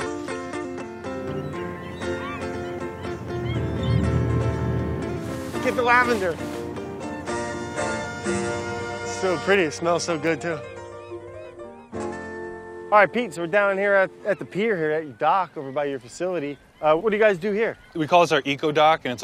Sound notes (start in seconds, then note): 4.1 boat noise